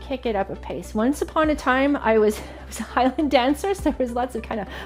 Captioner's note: chuckles